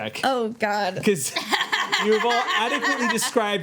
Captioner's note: laughing